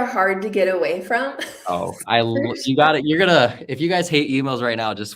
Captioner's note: laughter